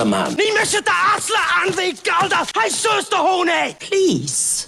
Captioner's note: gaelic